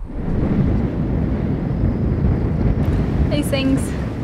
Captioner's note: thunder rumbles